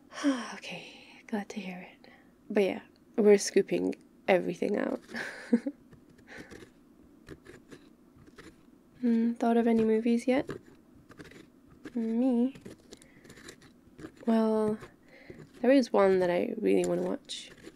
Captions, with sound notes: *sigh* ok, glad to hear it but yeah we’re scooping everything out *pumpkin scoop noises till the end* thought of any movies yet? me? well, there is one that I really want to watch.